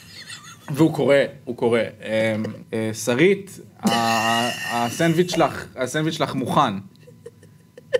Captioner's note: laughs